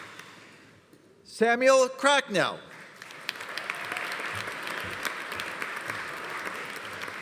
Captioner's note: audience applauding